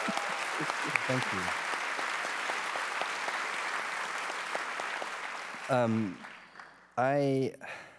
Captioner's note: applause